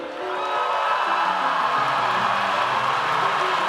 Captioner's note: audience cheers